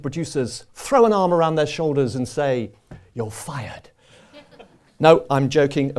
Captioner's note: laughter